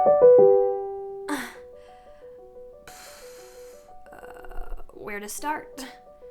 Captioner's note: intro music; sighs